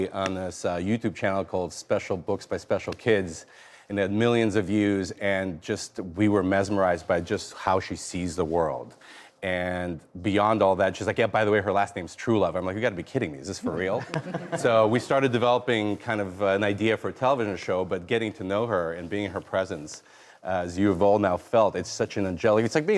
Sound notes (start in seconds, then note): 13.7 laughs